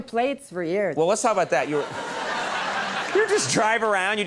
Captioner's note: audience laughing